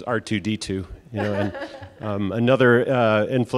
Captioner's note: presenter laughs